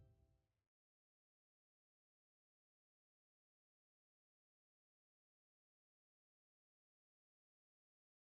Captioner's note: silence